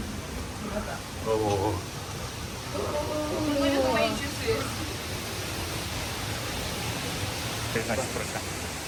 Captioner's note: sound of water